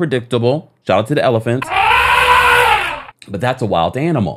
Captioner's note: elephant trumpeting